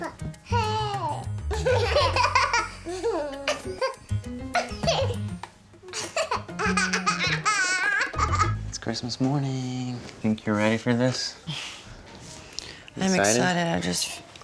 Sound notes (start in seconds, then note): 1.5 laughter; 3.7 laughing